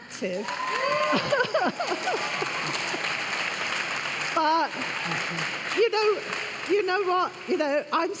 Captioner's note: cheers and applause